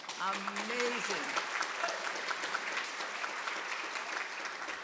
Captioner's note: audience applauding